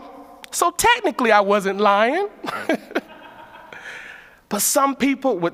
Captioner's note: laughs